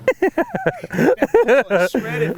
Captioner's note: Destin laughs